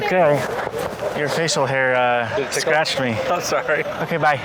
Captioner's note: laughing